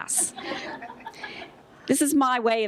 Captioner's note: laughter